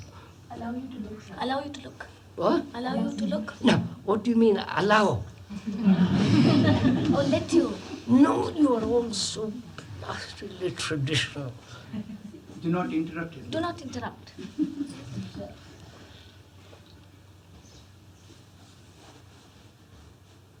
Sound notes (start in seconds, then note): 5.5 laughter; 14.3 laughter